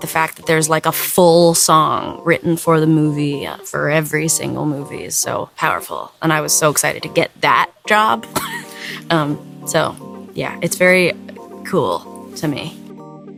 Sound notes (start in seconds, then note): 8.3 chuckles; 13.1 light music